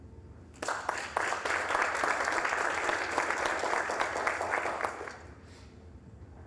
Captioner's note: applause